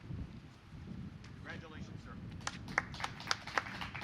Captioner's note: applause